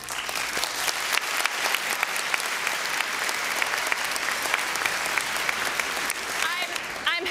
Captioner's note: applause